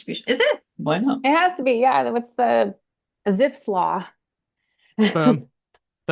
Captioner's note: laughs